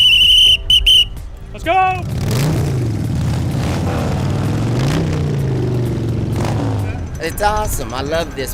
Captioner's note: sound of motorcycles roaring